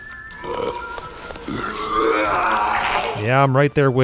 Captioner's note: wretches